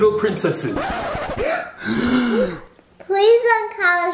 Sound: gasp

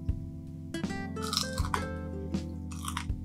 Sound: crispy Sound

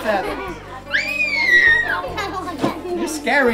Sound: squeals

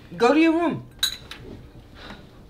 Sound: fork clatters

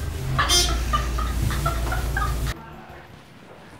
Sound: elevator beeps; giggles

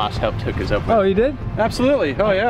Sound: male Voice

